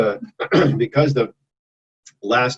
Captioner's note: clears throat